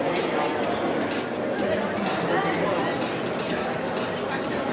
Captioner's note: people chatting